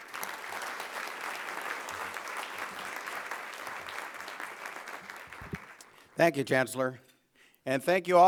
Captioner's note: applause